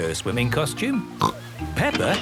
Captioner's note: snorts